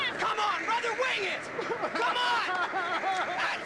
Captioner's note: sobbing